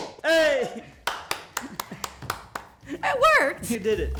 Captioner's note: applause; laughing